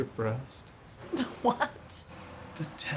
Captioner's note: laughing